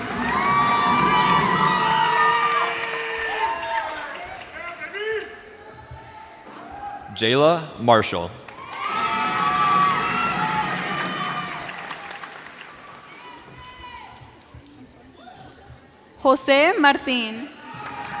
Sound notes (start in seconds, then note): 0.0 cheers and applause; 8.4 cheers and applause